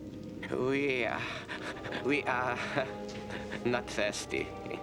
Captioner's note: laughs